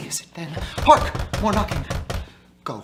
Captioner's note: knocking within